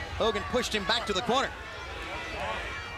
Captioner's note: crowd cheering